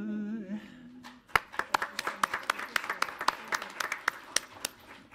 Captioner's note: audience applauds